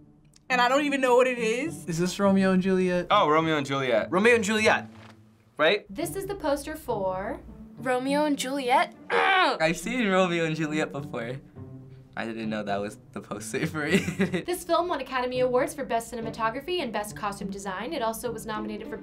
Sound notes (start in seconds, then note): 9.1 groans; 13.8 chuckles